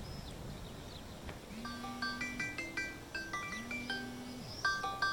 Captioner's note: line ringing